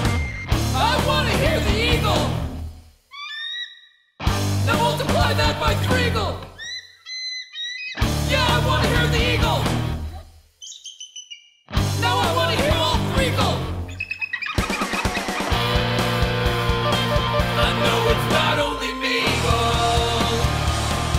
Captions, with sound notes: I wanna hear the eagle. [eagle call] Now multiply that by three-agle. [eagle call, eagle call, eagle call] Yeah, I wanna hear the eagle. Now I wanna hear all three-agle. [eagle call] I know it's not only me-agle.